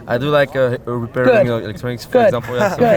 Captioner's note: crowd laughing